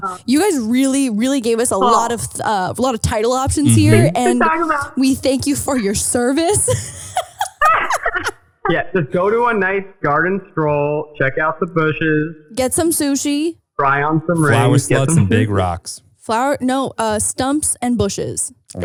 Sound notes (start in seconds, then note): 5.6 laughing